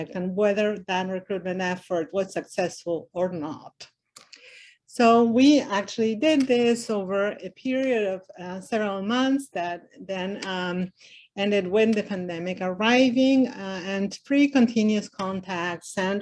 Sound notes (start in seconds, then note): none